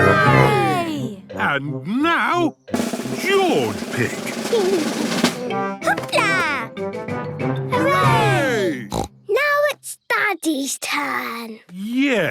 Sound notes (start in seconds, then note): 2.7 drumroll; 8.9 snort